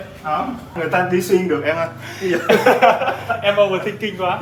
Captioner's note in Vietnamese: tiếng cười